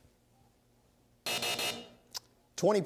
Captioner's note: buzzer